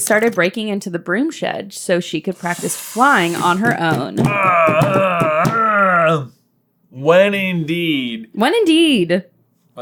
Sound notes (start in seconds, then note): 3.4 slam pat